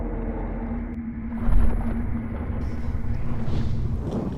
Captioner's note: water sloshing